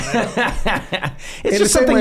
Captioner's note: all laughing